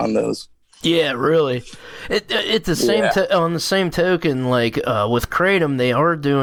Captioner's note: stammering